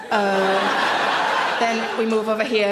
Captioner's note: audience laughs